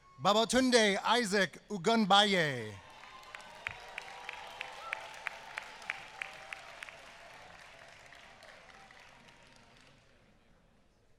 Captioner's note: applause